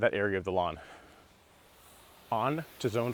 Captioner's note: water splashing